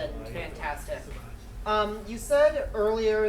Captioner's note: speaking in foreign language